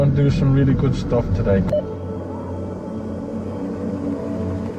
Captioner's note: radio beeps